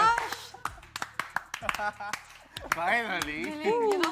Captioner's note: clapping